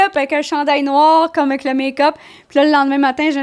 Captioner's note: in french